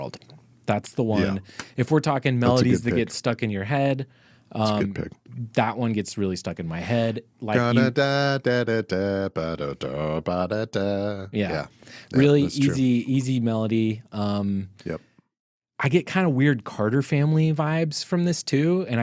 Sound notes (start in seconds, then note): 8.0 imitates melody